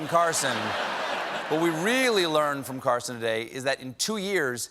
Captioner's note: laughter